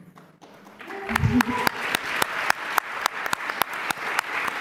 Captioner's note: applause